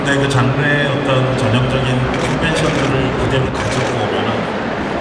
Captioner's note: speaking Korean